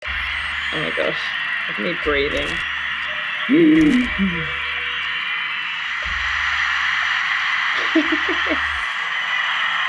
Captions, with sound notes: Oh my gosh. Look at me breathing. *exaggerated breathing sounds* *crowd noise builds*